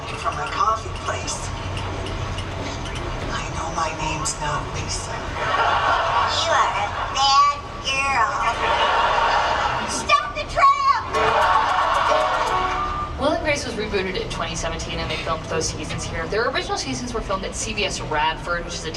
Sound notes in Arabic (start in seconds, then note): 5.1 الناس يضحكون; 11.1 موسيقى مبهجة